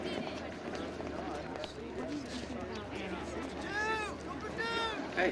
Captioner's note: students chattering